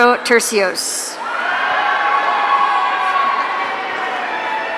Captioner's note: audience cheering